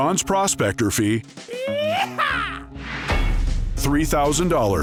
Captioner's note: cowboy yells